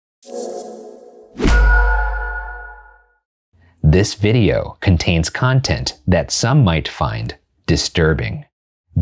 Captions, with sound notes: (logo whooshing before our poor little meow meow goes little crazy in this story) - This video contains content that some might find disturbing.